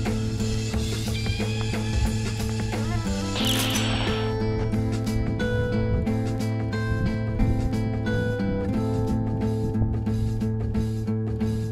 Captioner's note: instaKILL notification